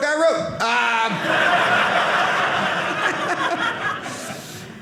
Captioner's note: audience laughing